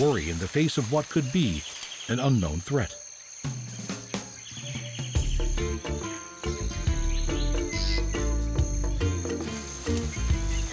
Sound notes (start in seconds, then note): 4.2 birds chirping